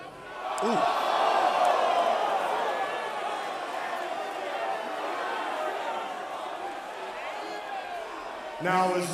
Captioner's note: crowd cheering